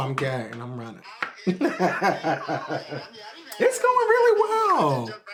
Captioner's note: Malcolm laughing